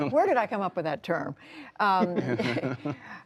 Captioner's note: laughter